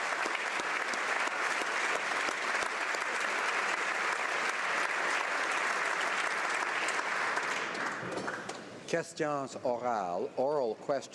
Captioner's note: applause